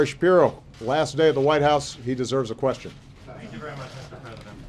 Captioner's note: laughter